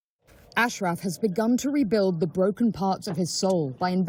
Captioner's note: voice-over